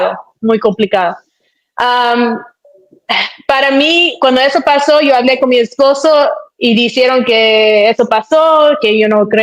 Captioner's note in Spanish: carraspeo